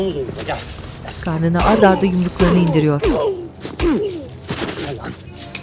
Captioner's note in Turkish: Yumruk sesleri